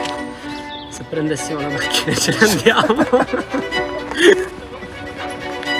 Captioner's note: laughter